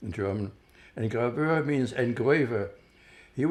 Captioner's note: german